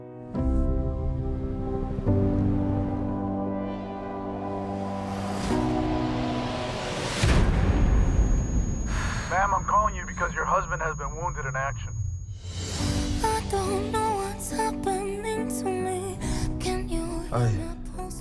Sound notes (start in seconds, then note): 5.4 tense music playing; 7.2 explosion blasts